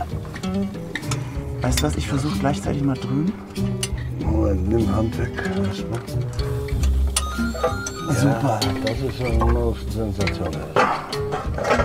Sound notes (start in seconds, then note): 7.1 phone ringing